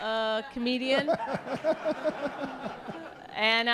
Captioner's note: laughter